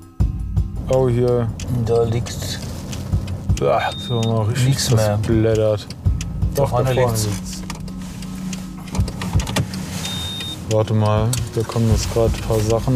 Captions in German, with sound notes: Oh, hier. - Da liegt ... (Blinkergeräusche) Oah. - ... nichts mehr. Richtig gesplattert. Doch, da vorne. - Vorne liegt's. (Blinkergeräusche, Piepsen) Warte mal, da kommen ein paar Sachen.